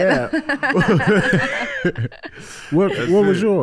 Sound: all laughing

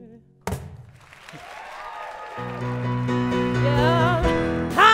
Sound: applause

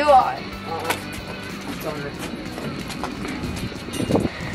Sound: feet shuffling

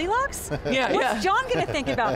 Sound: laughs

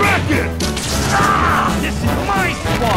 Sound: yells in agony

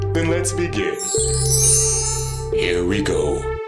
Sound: bells chiming

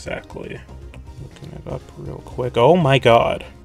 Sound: quietly

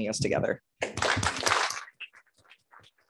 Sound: applause

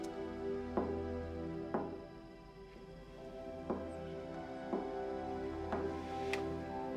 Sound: knocking continues

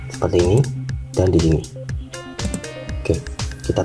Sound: click; click

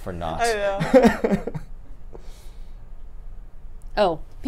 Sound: laughs

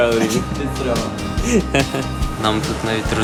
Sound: laughs

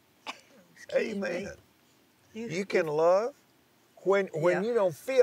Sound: coughs

